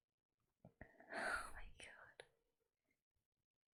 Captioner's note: whispers